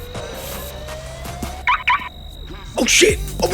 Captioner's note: car beeping